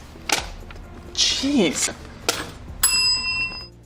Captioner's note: bell dings